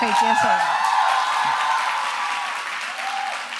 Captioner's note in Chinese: 歡呼